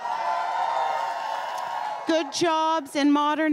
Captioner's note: crowd cheering and applauding